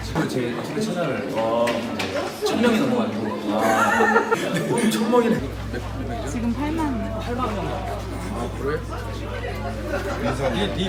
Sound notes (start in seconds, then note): 3.5 laughing